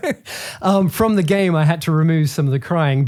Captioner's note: laughing